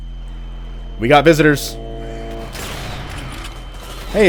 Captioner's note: deep, low humming; massive gunfight ensues, Barrett howls